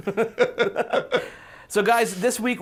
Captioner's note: laughing